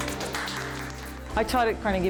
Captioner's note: clapping